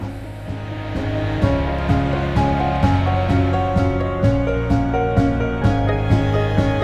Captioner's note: upbeat music; crowd cheering